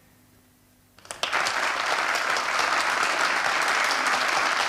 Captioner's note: applause